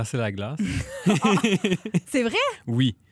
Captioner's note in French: rires